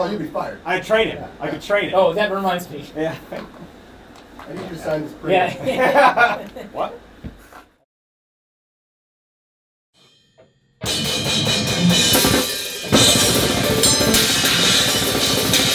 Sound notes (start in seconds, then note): 5.4 all laughing; 5.4 laughs